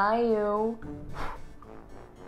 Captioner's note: blows